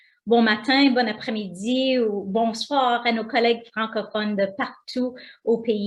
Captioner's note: speaking foreign language